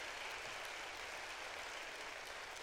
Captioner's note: applause